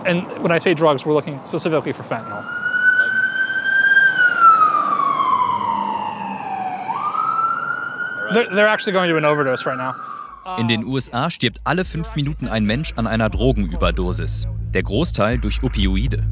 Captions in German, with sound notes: (Sirene) In den USA stirbt alle fünf Minuten ein Mensch an einer Drogenüberdosis. Der Großteil durch Opioide.